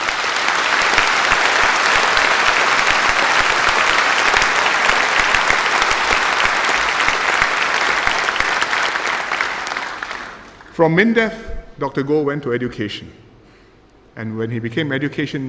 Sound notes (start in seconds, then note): 0.0 applause